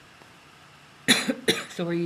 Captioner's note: coughs